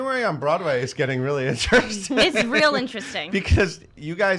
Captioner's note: laughs